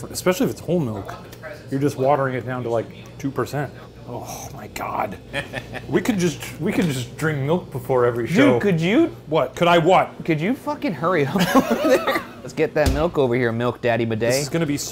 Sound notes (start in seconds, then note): 11.2 Shane and Ryan laughing